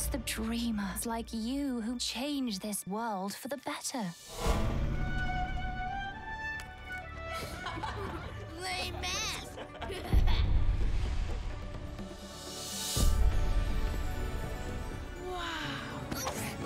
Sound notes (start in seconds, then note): 7.3 children laughing; 10.0 laughs